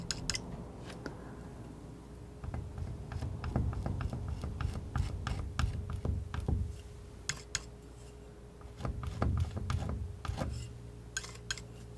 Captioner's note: scraping